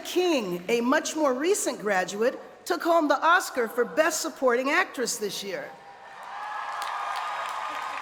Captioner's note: cheers and applause